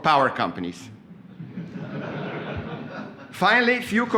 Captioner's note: laughter